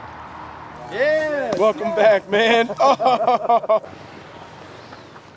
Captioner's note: laughs